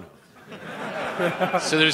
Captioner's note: laughter